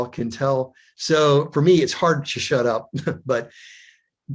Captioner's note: chuckles